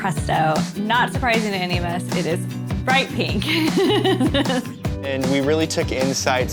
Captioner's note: laughs